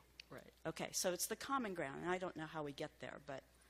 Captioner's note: voiceover